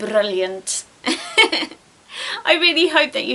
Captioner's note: giggles